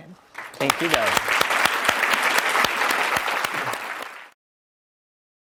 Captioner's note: audience applauds